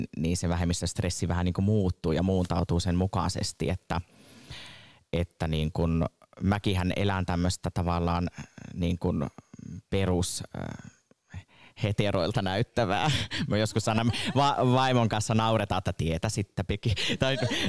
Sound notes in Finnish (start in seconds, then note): 13.5 Naurahtaa